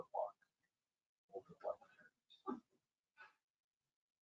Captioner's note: speaking faintly